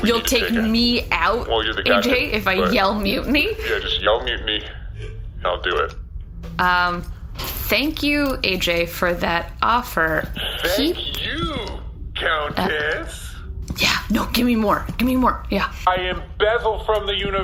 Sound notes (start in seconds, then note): 13.2 excited